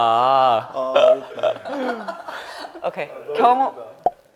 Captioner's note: can just laugh